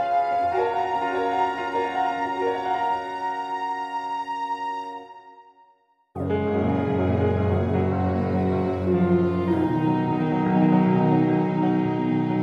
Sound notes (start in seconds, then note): none